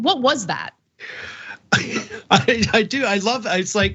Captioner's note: laugh